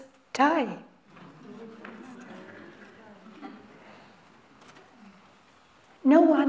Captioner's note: laughter